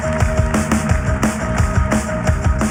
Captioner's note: cheering